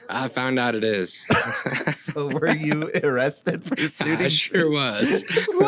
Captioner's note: laughs